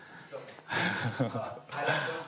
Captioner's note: laughs